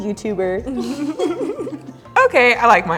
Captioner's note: laugh